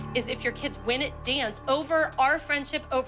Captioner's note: none